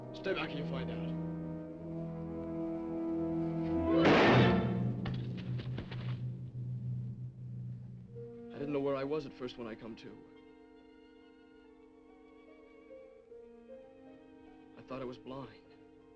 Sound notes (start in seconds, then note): 2.6 dramatic music; 4.0 gun firing; 10.9 gentle music